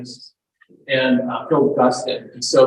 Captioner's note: audio breaks